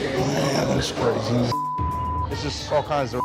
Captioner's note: beep